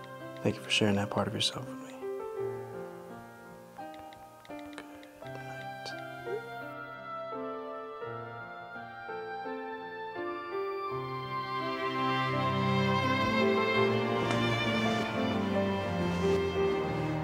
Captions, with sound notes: Thank you for sharing that part of yourself with me. Good night. (phone beeps) (dramatic music)